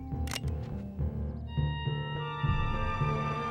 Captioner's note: gun clicking; dramatic orchestral music continues